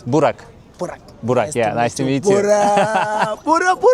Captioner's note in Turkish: kahkaha